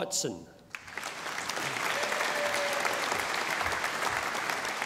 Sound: audience applauding

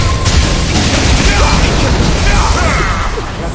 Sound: tornado

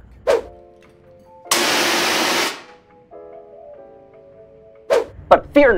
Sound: whoosh

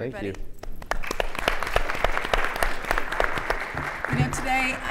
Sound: audience applauds

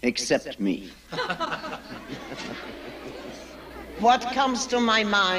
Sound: everyone chuckling

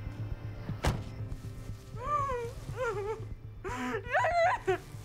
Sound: muffled sobbing

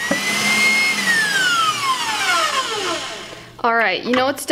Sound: mixer whirring

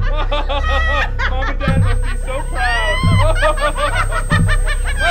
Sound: laughter

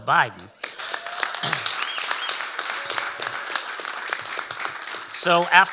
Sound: audience applauding and cheering

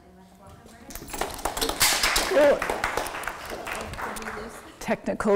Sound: audience applauding

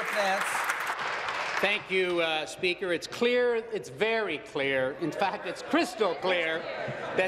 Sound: applause

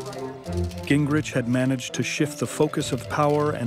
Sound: cameras clicking

